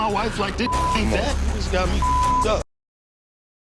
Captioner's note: beep